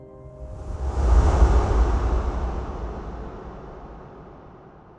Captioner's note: booming sound